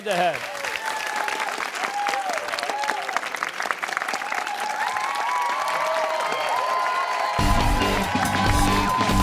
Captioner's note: cheers and applause